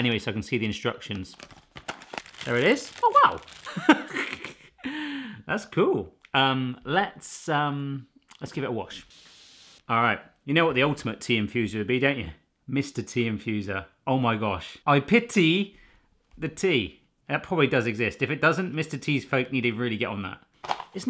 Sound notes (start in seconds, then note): 3.6 chuckling